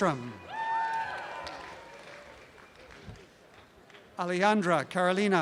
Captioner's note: applause and cheering